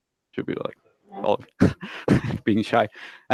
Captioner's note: laughs loudly